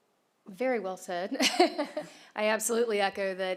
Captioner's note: laughter